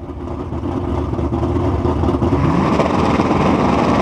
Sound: car engines

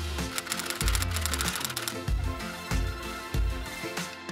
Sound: typewriter clicks

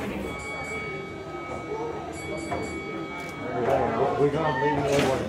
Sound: ding ding ding go the doors

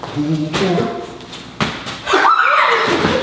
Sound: screams

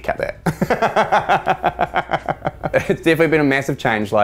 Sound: laughter

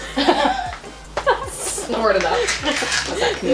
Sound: laughter

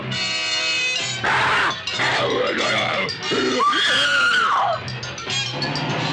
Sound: caveman speaking; screams

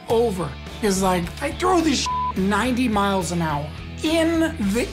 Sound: beep

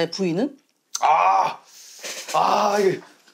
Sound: grunting

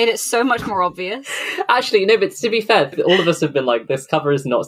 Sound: laughs

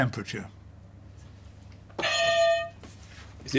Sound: clang

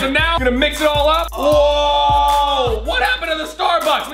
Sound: both men shout

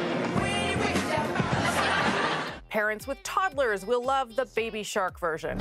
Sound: laughter

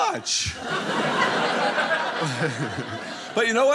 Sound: audience laughing

